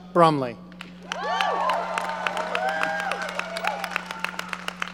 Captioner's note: audience cheering